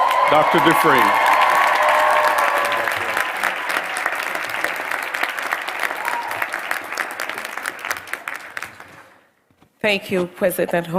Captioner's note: applause